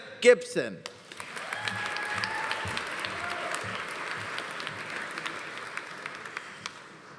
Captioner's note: audience applauding; audience cheering